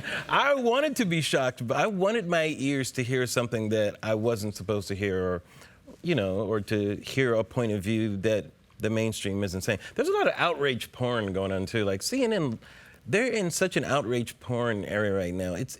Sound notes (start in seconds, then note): none